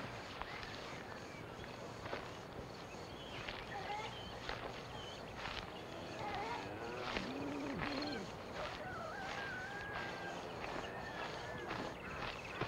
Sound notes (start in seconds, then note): 5.9 cows mooing and chickens clucking